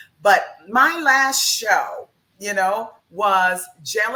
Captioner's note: none